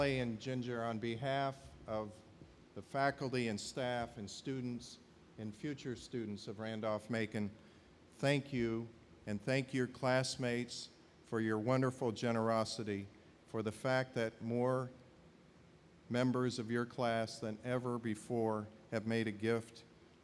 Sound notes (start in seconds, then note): none